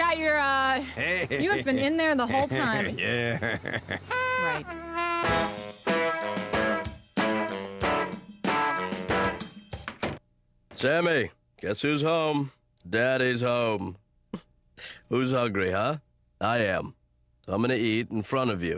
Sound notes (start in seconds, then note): 0.9 laughing gutturally; 4.8 chuckling